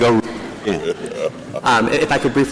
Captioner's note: laughter